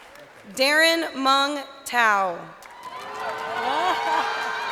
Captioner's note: crowd cheering